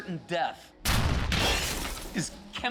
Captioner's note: explosions boom, glass shatters